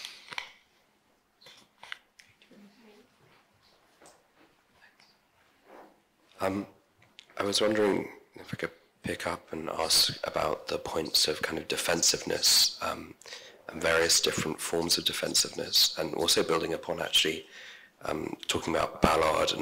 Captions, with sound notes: (shuffling) - Thanks. I was wondering if I could pick up and ask about the points of, kind of, defensiveness, and various different forms of defensiveness and, also, building upon, actually, talking about Ballard.